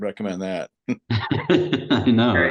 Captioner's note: laughter